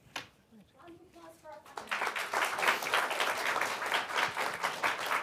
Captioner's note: applause